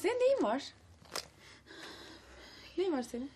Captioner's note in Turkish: Nefes sesi